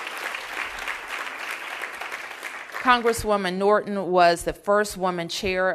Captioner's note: applause